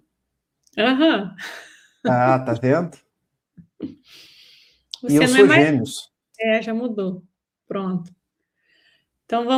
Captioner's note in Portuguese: limpando a garganta